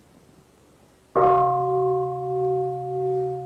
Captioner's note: bell